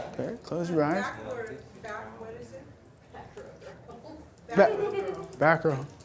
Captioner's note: voiceover